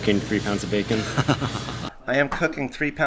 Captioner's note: laughs softly